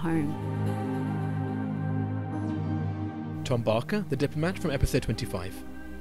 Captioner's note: voiceover